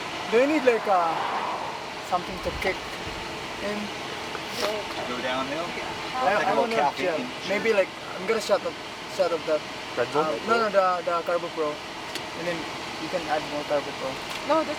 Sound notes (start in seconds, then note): 0.0 speaking in foreign language; 6.6 overlapping chatter